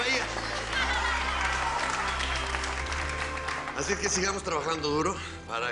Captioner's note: Aplausos